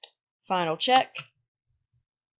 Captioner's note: click